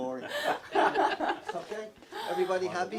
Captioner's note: everyone laughing